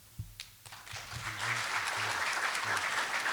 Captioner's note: applause